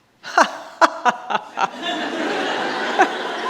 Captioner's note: all laughing